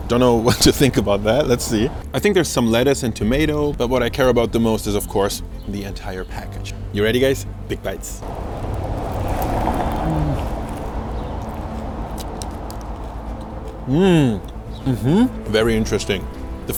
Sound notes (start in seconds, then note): 9.3 munches